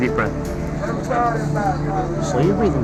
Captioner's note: chatter